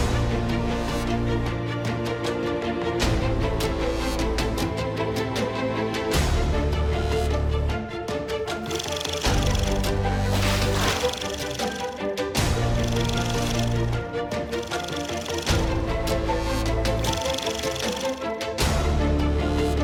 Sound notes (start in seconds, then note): 10.3 tape rolling; 11.6 upbeat drum music; 17.0 tape rolling